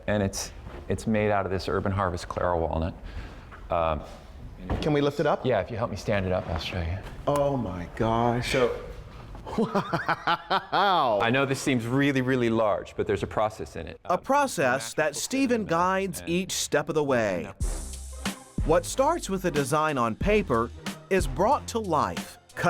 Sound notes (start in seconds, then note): 9.4 laughing